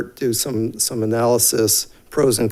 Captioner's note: none